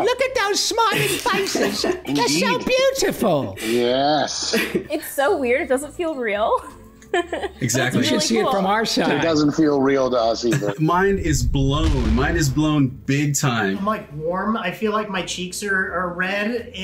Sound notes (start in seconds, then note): 7.0 laughs; 10.9 kaboom!